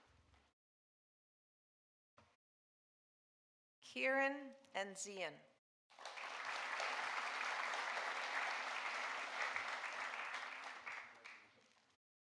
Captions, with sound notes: Kieran Enzian. (audience applauding)